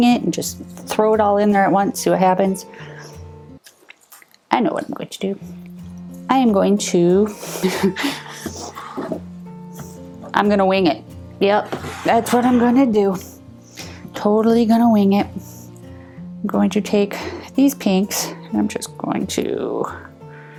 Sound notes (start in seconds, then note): 7.5 laughs